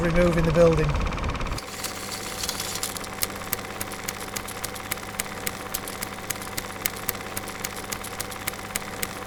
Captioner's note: projector runs out of film